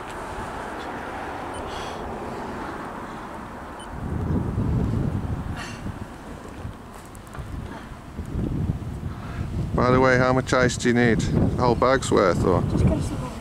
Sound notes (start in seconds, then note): 0.0 traffic noise; 5.5 sighs; 5.8 traffic noise